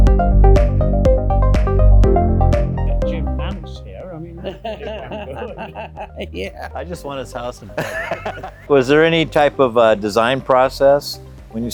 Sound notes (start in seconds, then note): 4.2 all laughing